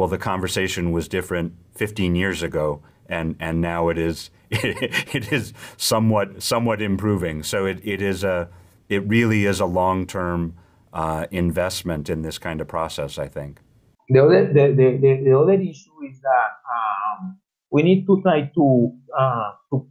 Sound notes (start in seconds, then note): 4.5 laugh